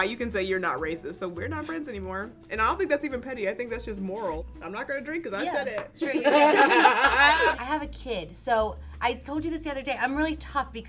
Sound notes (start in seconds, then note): 6.2 girls laugh